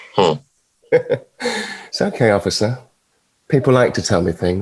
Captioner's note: chuckling